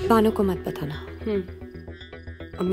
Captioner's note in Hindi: none